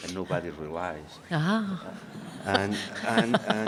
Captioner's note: laughing